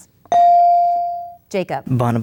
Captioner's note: ding